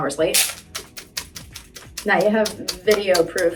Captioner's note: fan flapping